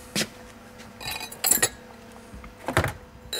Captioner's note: glass clattering